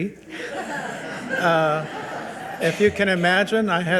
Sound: people laugh

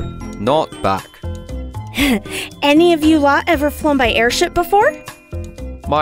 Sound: snickers

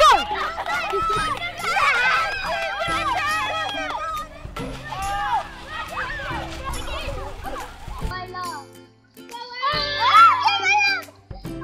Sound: children playing

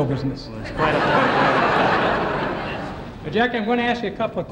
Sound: crowd laughing

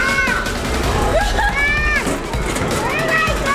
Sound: laughter

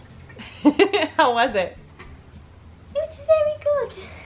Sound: laughs

